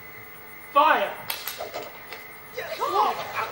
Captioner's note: arrows whoosh